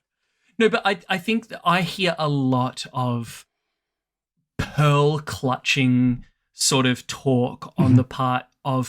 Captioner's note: laughs